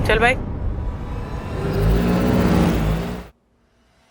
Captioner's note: engine revs